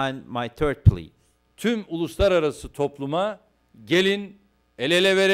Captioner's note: non-english speech